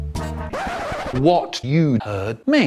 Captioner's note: record scratch